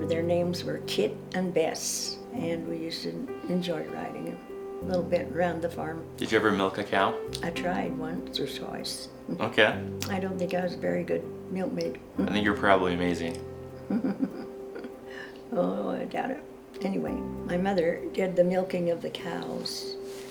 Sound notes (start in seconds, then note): 13.8 laughter